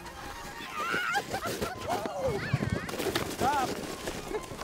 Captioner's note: laughter